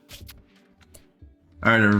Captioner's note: silence